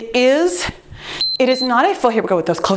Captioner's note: timer beeps